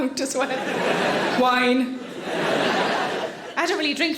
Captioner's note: audience laughing